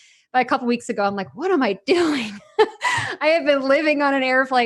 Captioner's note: laughs